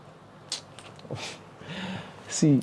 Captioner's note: sighs